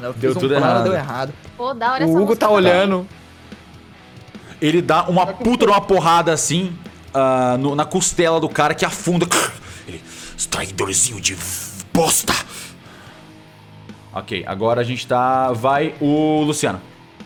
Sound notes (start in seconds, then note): 9.3 pained groans